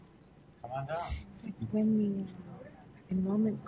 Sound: voiceover

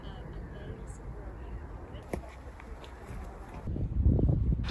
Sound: sound of the breeze and birdsong

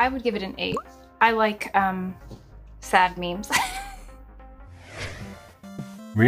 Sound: laughs

